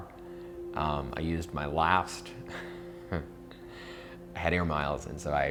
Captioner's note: chuckles